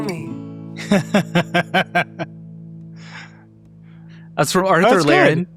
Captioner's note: gentle music ending; laughing